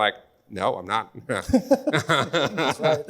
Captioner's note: panelists laugh